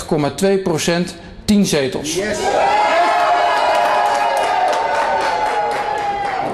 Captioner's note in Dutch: Gejuich